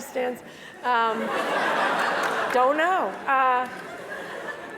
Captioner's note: laugh; laugh